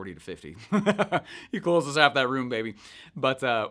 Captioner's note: laughs